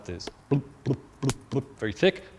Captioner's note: imitates slow boiling